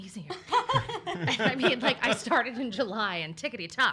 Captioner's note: laughs